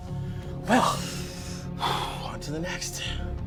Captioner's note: sighs